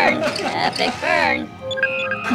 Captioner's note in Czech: elektronické pípání